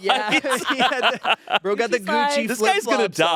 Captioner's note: group laughing